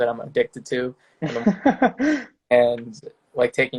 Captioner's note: laughing